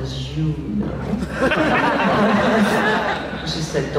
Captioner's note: laughs